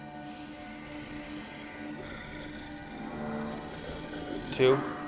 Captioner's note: werewolf growling